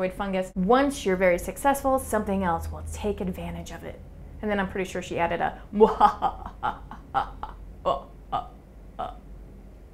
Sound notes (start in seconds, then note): 5.8 evil laughter